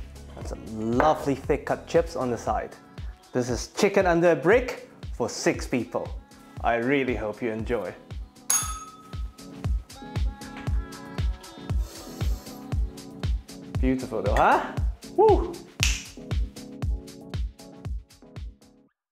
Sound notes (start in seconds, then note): 8.5 bell rings; 16.3 upbeat music